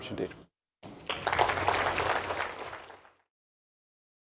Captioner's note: applause